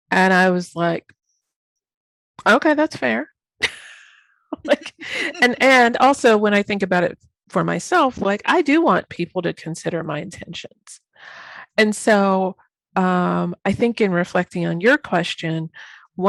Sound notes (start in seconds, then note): 3.6 laughing